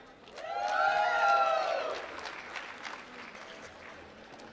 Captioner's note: applause